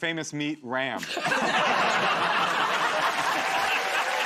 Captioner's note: laughter; cheers and applause